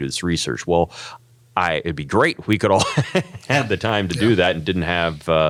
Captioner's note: laugh